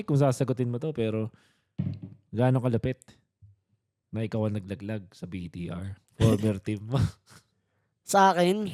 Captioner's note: laughs